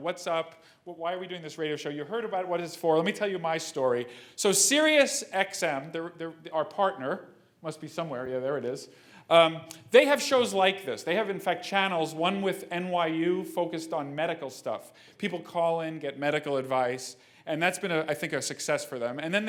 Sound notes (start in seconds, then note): none